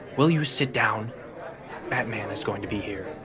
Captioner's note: lowers his voice